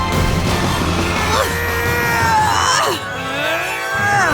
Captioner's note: straining